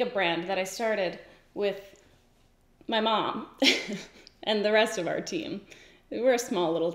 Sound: giggles

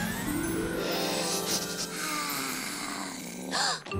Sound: inhales deeply, sighs; gasps

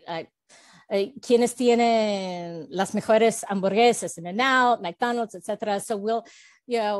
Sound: Spanish

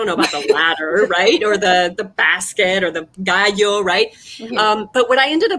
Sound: speaking foreign language

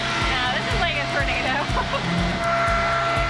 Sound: laughs

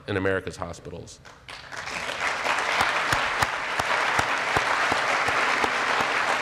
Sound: applause

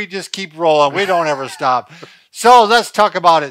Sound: laughing

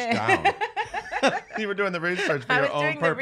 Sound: laughs

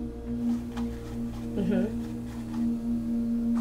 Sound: brush strokes

